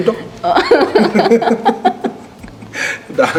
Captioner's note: laughs